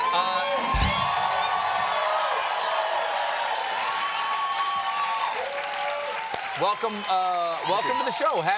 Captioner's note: applause; cheers and applause